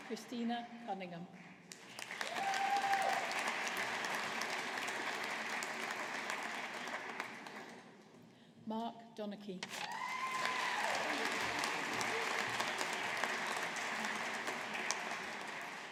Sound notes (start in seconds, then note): 1.7 audience applauding; 9.8 audience applauding